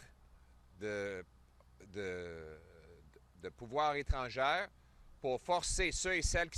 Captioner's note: French